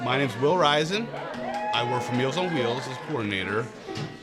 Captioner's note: audience cheering; audience clapping